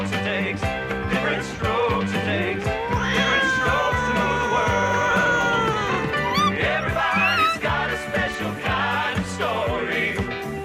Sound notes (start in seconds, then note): 2.5 Caprice meowing angrily; 6.8 Ella barks and whimpers